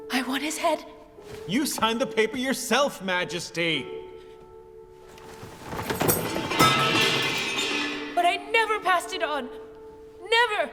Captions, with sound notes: I want his head. - You signed the paper yourself Majesty. (metal clatters) But I never passed it on, never.